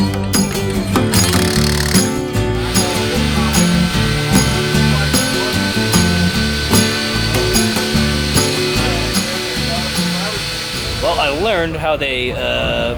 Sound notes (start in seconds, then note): 1.0 drilling